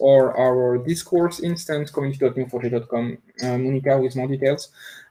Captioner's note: murmurs